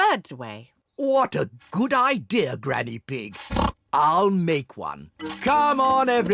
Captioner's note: oinks